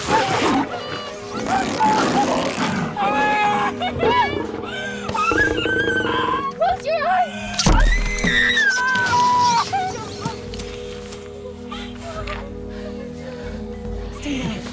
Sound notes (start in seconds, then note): 0.1 Jessica Crying; 5.4 Screaming; 7.7 Jessica Screams